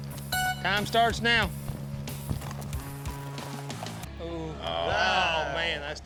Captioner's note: horn blows